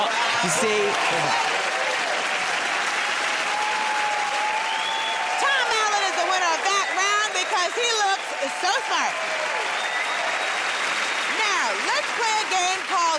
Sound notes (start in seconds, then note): 1.5 cheers and applause; 9.8 cheers and applause